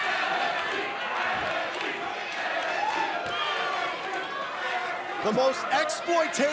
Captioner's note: fans chanting